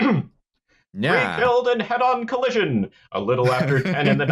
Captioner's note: clears throat; '30s voice